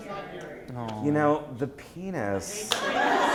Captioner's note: voiceover; laughter